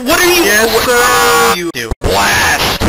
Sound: screams of agony

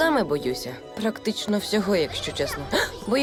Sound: gasps

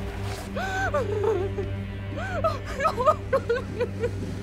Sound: muffled crying

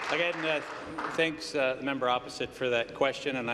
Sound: applause

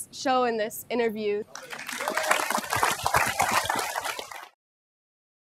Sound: applause

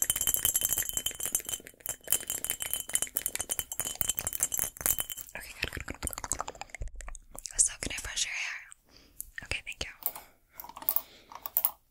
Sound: mouth Sounds

